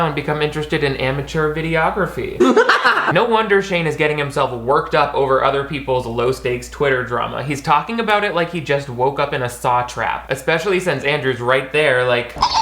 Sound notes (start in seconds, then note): 2.4 cackles; 12.4 creepy doll cackles